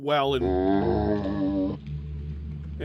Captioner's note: zombie grunt